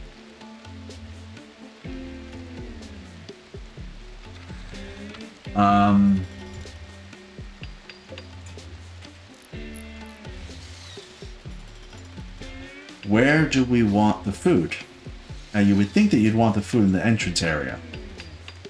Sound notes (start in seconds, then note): 5.5 sighs